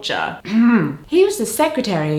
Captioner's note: ahem